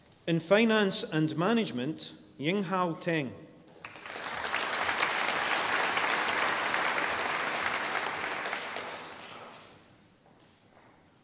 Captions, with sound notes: In Finance and Management. Yinghao Teng. (audience applauding)